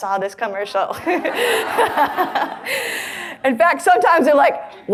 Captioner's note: audience laughs